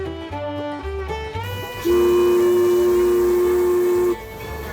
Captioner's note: whistle blowing